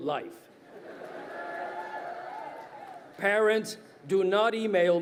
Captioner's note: crowd cheering